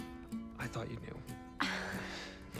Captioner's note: chuckles